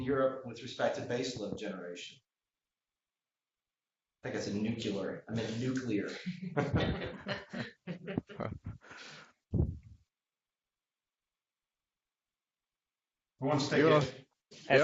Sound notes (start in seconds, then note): 2.5 laughter